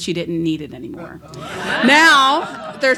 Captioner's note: laughs